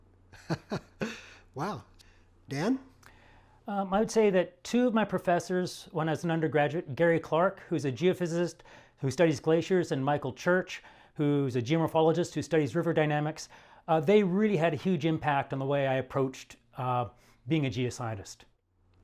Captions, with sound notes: (laughing) - Wow, Dan? - I would say that two of my professors when I was an undergraduate, Gary Clark, who's a geophysicist who studies glaciers, and Michael Church, who's a geomorphologist who studies river dynamics. They really had a huge impact on the way I approached being a geoscientist.